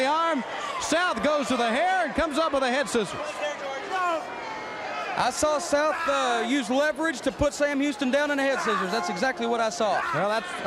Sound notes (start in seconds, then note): 6.7 crowd chatter